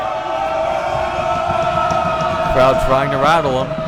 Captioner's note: crowd booing